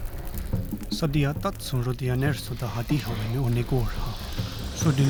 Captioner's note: speaking Native language; fire crackling